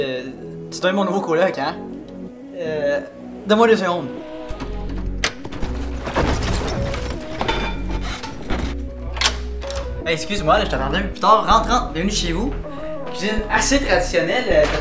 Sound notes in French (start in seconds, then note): 4.1 Bruit de rangement